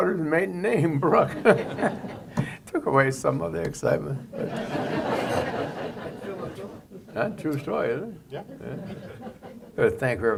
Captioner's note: laughter